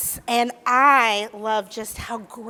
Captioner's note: none